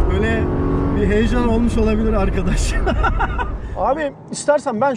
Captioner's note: laughings